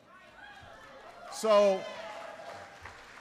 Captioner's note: applause